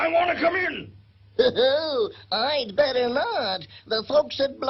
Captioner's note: chuckles